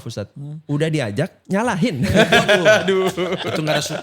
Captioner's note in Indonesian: tertawa